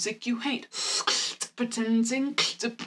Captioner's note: beatboxing